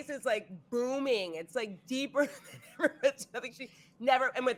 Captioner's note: laughing